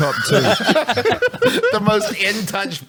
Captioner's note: laughs